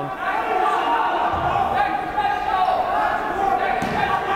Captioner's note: yelling